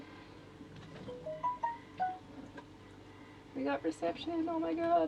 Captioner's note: mobile ringing